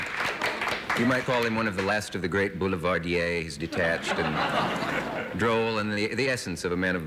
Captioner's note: applause